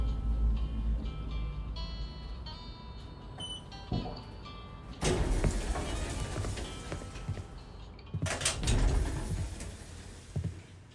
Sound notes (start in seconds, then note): 8.2 elevator door opens